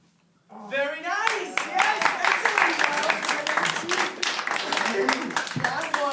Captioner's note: applause